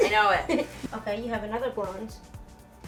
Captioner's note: laughing